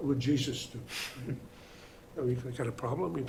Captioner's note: audience chuckling